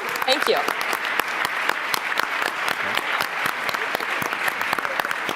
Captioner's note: applause